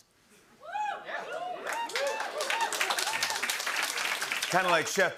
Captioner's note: cheers and applause